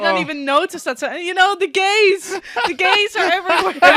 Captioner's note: laughs; laughter